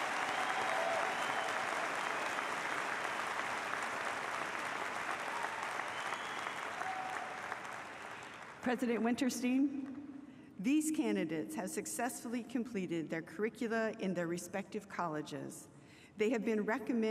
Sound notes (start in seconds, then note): 0.0 applause